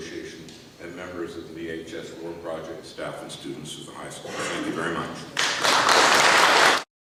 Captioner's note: audience applause